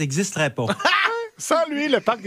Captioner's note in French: rires